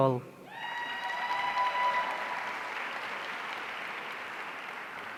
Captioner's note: audience cheering